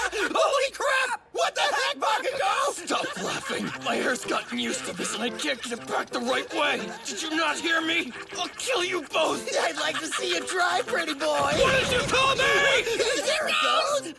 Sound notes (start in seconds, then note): 0.0 laughing; 11.2 laughing; 11.4 explode